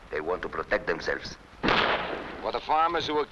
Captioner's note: gunshots blasting